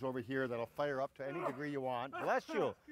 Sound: sneezing

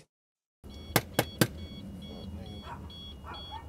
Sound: door Knocking...Beeping

